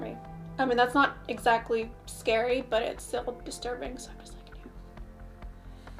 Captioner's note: whispers